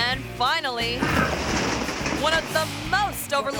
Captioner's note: paper towels thud